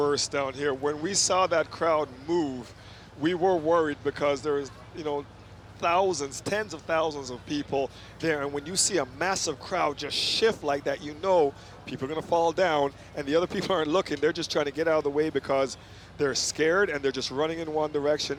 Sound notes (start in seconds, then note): none